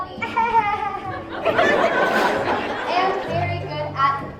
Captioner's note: laughing